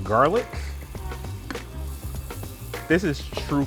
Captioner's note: pan sizzling